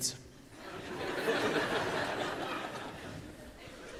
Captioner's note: laughter